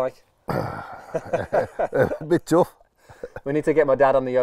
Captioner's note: groans and laughs